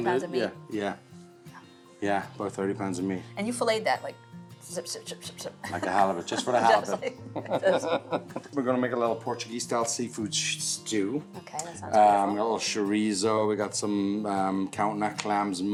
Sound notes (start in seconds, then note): 5.6 laughs